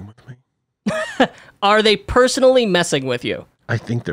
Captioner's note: laughs